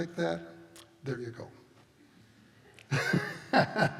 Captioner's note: laughs